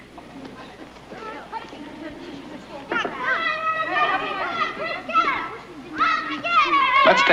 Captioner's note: children clamoring